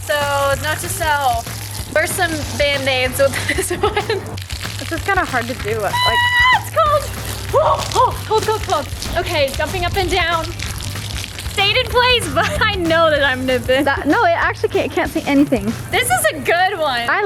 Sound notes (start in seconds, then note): 1.8 laughs; 5.8 squeals